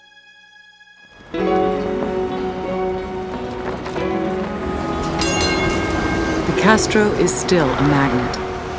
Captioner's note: soft bright music; bell clanging